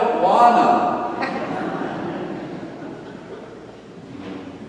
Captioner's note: audience laughing